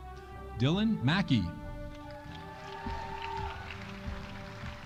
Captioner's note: audience applauding